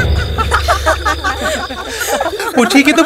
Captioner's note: Laughing